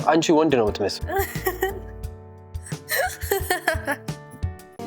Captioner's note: laughing